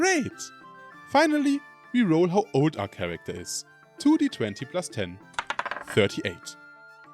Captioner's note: die rolling